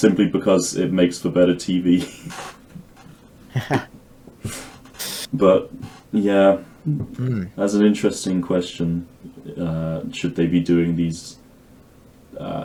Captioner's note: chuckles